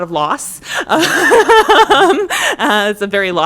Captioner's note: laughter